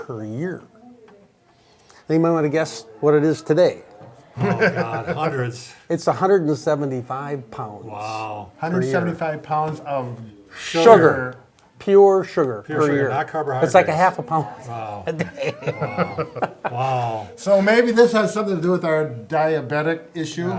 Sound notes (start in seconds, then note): 4.4 chuckles; 14.6 laughs